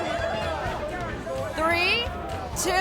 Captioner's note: people chattering